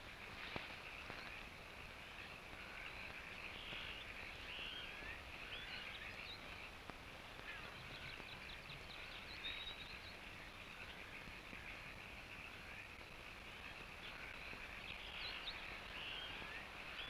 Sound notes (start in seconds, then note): 0.1 insects chirping; 0.9 frogs croaking